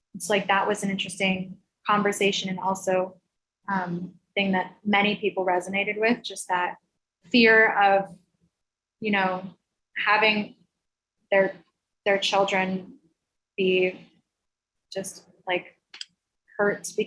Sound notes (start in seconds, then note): none